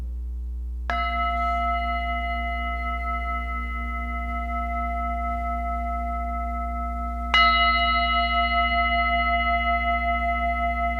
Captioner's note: singing bowl rings 2 times